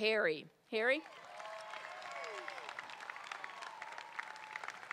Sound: crowd cheering

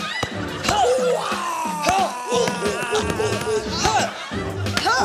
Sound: grunts

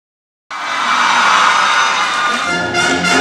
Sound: cheering

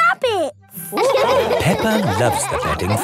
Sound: all laughing

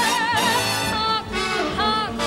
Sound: car horn honks

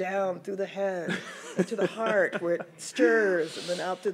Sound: laughs

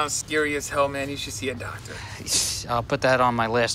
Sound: man gushes

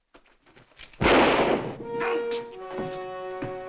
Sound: fires gun; groans

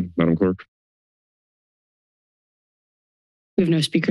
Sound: silence

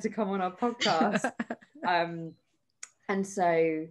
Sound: all laugh

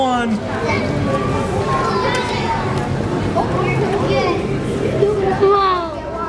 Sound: indistinct background chatter

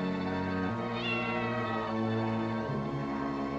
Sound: meowing continues

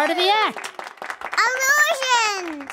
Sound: applause

